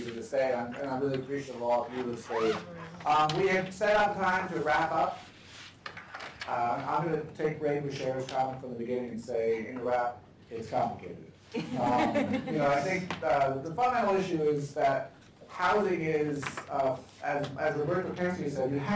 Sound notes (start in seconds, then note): 11.5 laughter